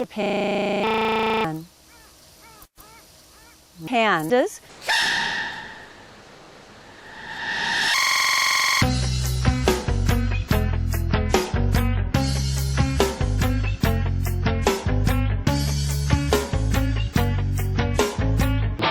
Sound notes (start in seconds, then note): 4.9 panda cub sneeze; 6.3 reversed panda cub sneeze